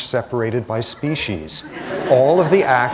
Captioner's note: laughter